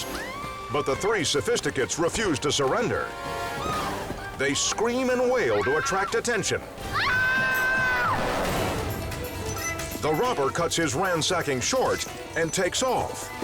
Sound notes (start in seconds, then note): 0.1 woman screams; 6.9 screams